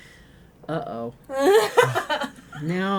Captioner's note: laughing